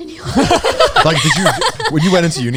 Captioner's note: everyone laughing